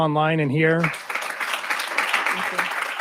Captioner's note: applause